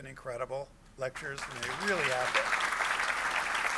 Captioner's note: applause